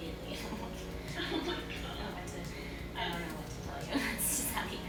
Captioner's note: laughing